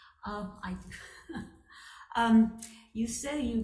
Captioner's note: chucking